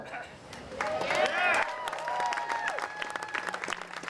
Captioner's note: applause